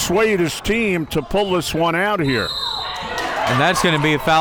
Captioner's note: whistle tweeting